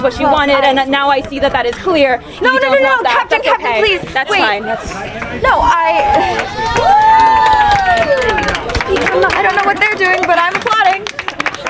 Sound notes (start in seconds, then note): 5.8 audience cheering